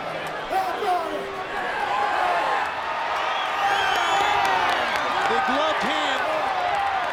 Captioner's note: crowd cheering; Goldberg vocalizing